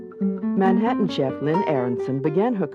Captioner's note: voiceover